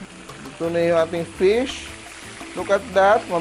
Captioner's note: sizzle